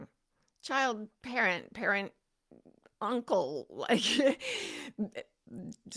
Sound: chuckles

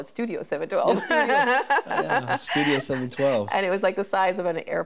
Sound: laughing

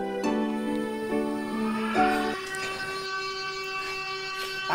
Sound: the siren screaming

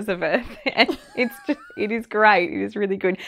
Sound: laughs

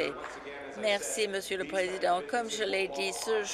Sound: applause

